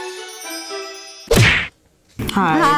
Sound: regal string music; smack

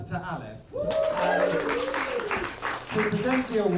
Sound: applause

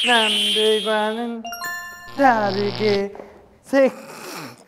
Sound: cracking up

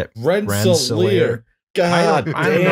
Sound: laughter

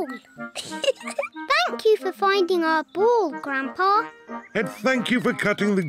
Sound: giggles

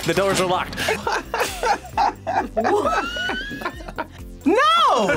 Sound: both laugh

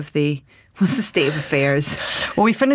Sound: chuckles

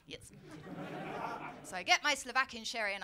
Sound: laughter

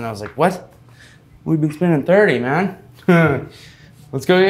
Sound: laughing

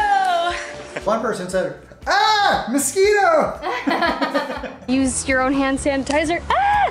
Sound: laughs

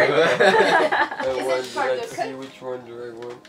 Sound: everyone laughs

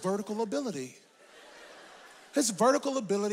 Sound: audience laughs

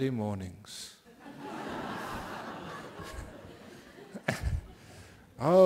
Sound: laughter from the audience

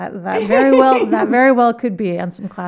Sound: laughing

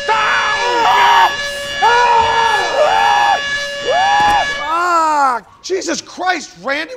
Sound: air horn; screaming

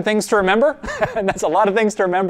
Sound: pastor: Laughter

